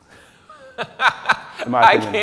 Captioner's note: laughing